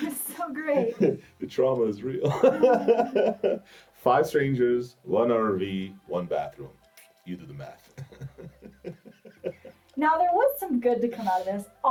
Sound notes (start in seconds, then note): 2.1 laughs; 7.8 laughs